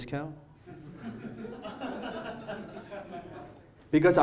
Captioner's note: audience laughs